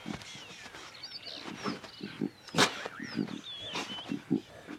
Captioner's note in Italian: cinguettii